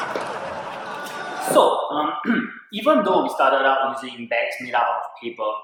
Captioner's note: clears throat